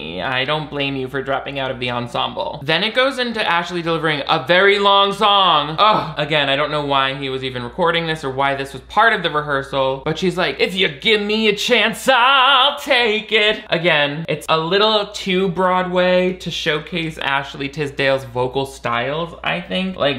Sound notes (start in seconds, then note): 5.6 scoffs